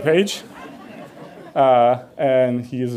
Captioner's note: audience laughs